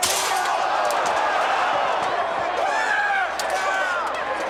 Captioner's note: metal clanging; crowd chattering